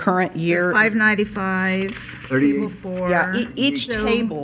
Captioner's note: woman's Voice